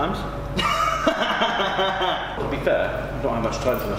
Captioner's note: laughing